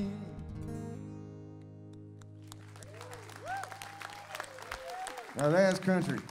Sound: audience cheering

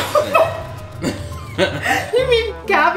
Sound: both laughing

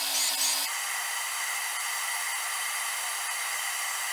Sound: lathe whirring

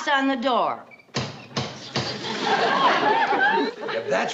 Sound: knocks at door

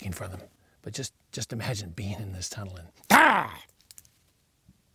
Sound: roar

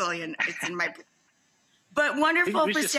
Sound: laughs

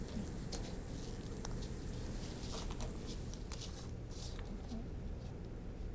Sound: none

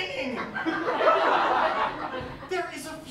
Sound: laughter

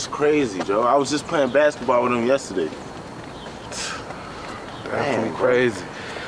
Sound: scoffs

